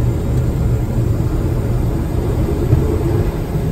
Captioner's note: engine roaring